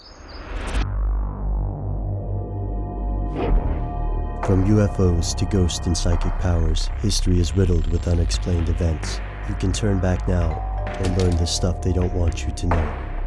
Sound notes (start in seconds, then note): 0.1 creepy music; 4.5 voiceover